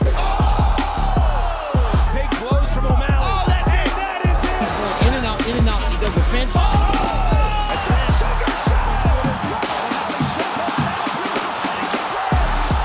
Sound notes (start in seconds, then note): 0.1 crowd cheering; 8.0 crowd cheering; 9.5 upbeat music